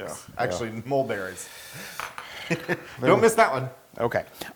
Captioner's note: laugh